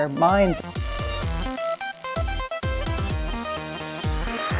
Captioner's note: electrical buzzing noise